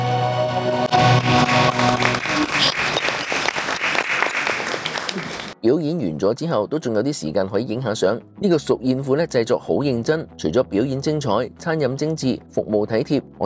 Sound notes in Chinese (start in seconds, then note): 0.7 拍手